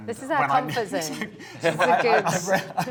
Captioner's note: all laughing